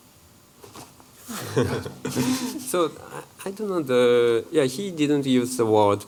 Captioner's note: laughs